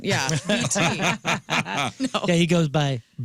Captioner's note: laughing